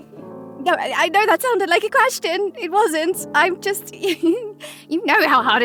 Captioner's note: giggles